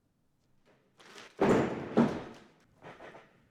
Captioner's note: Loud thump from Dark Shadow jumping on the mat